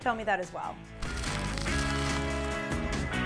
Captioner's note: paper crinkling; light rock music